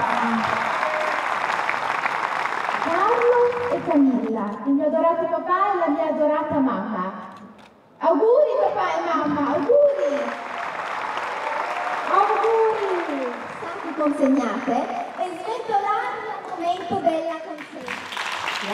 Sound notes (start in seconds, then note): 0.0 applause; 12.7 speaks in Italian